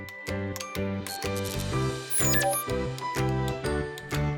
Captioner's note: blip